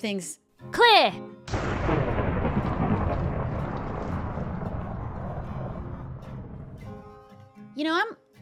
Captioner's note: thunder noise